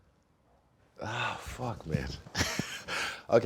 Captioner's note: laughing